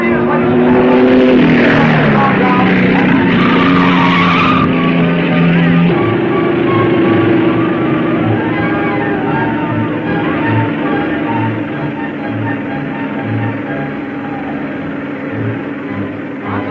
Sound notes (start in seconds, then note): 1.6 car whirring; 3.5 tires squealing; 6.3 thrilling music; 12.5 soft orchestral music